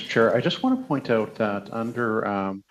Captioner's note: speaking French